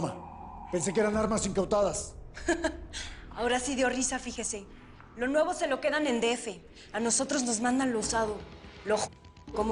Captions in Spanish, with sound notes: - ¿ESO ES UNA BROMA? PENSE QUE ERAN ARMAS INCAUTADAS. [Risas] - AHORA SI DIO RISA, FIJESE. LO NUEVO SE LO QUEDAN EN EL D.F. A NOSOTROS NOS MANDAN LO USADO,